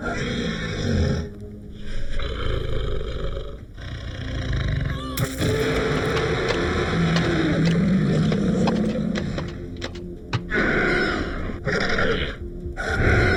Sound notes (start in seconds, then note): 0.1 shark roaring; 2.3 shark growling; 5.1 Paige grunts; 5.1 knife thuds; 6.1 fin flapping; 6.1 shark roaring